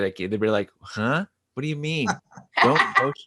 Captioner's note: laughing